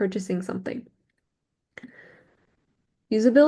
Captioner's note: small silence